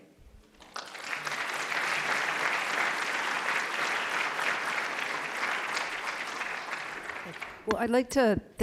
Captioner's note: applause